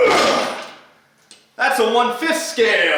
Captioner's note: clashing